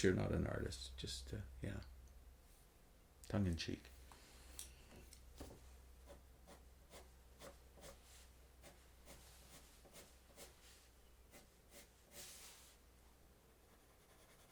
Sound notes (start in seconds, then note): 6.3 pencil scratching